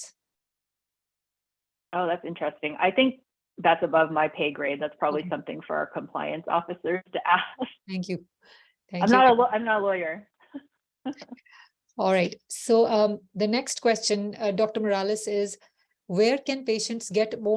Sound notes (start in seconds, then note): 11.0 laughs